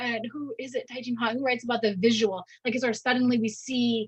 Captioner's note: speaking in Mandarin